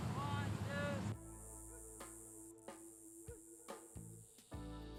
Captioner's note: insects chirping